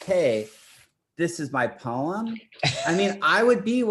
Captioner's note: laughs